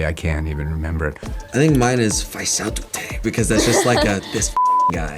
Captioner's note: speaking na'vi